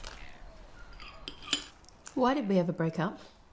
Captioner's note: none